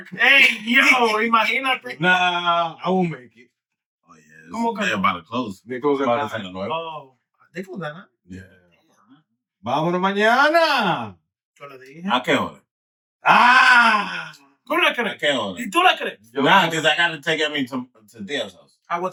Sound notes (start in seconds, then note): 9.5 speaking In Foreign Language